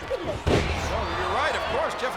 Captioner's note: body thuds